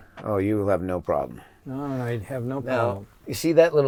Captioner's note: none